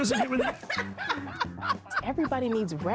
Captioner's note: laughs